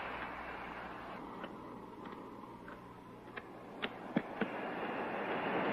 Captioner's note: footsteps approaching